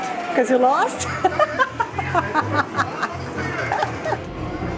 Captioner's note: laughs